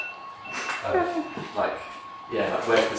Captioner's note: alarm begins to go off